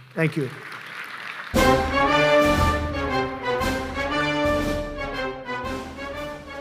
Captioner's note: applause; patriotic music